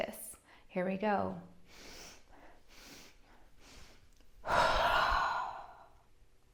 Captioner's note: 3 breaths in and one exhale